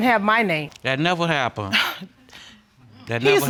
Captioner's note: scoffs